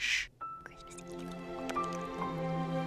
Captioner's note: whispering